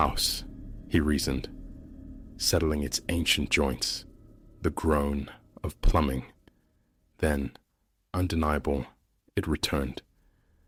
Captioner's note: settling its ancient joints, the groan of plumbing